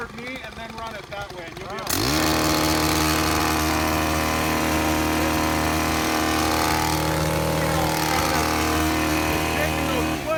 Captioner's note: machine whirring